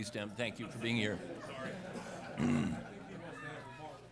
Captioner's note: laughter